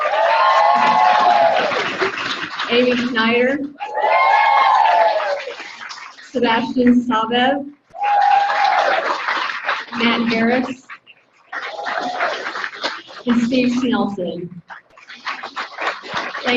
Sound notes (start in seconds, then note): 0.0 audience cheering; 3.8 audience cheering; 7.9 audience cheering; 12.0 audience applauding